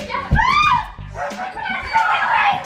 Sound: mom screams

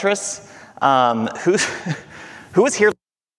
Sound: chuckling

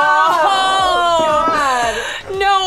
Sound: screaming

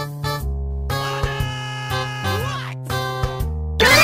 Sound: on Corey's phone

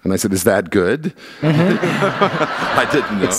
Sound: laughter

